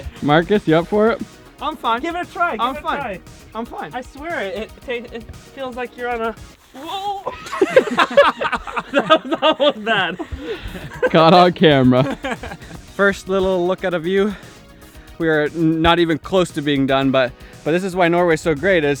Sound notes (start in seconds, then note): 6.7 yells; 6.7 laughs; 6.8 group laughing; 12.5 laughs